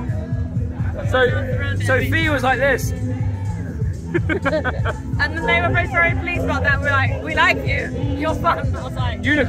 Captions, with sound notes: So, so Fi was like this. (laughter) And the name of our friend, please, brought that. We're like, we like you. Yours, but... Unicorn.